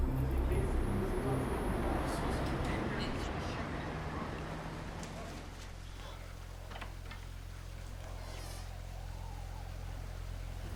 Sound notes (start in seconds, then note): 3.5 voices echoing